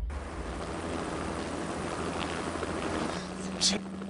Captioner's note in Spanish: Sonido del helicóptero